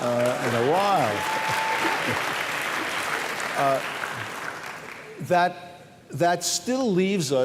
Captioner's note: cheering